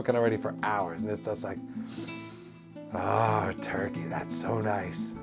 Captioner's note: sniff